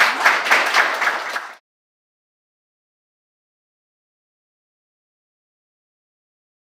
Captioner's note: audience applauding